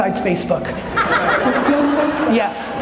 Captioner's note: laughter